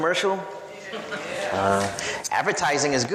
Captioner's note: audience laughs